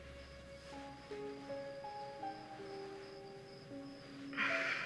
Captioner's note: crickets chirping